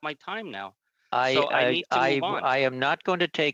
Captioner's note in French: voix de l'interprète